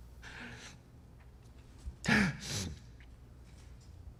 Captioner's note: sobs